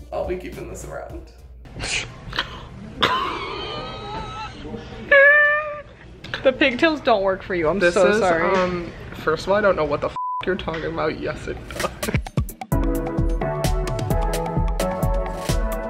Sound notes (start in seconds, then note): 3.0 laughs; 10.1 beep; 11.8 relaxed house music